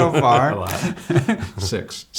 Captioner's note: laughter